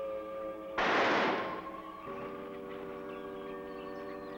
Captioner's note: gun firing